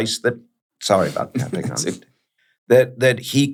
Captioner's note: chuckles